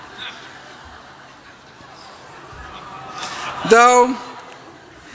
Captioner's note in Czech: Smích